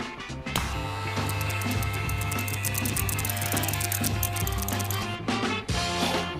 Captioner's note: hair clipper buzzing